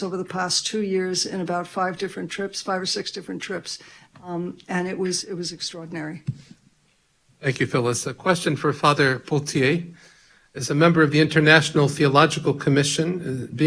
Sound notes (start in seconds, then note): none